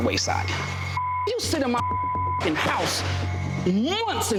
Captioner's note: beep